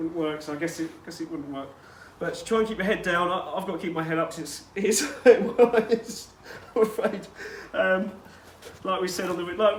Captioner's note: giggles